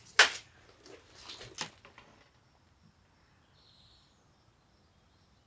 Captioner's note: tape measure clattering